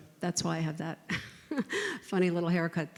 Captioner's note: chuckles